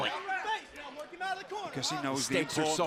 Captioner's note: crowd chatter